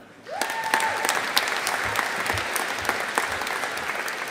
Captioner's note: audience applauding